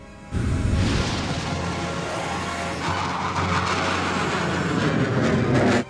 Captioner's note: intense, dramatic music; aircraft whirring